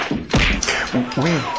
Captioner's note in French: bruits de bagarre, de coups